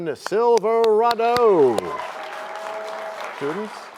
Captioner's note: applause